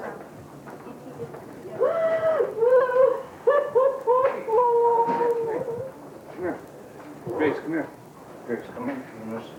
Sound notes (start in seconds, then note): 1.8 loud sobbing; 6.8 more sobbing